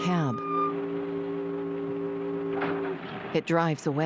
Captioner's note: freight horns blare; brakes squealing